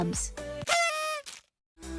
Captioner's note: party horn blow